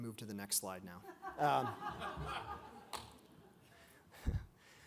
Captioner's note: audience laughs